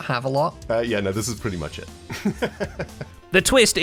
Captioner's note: laughs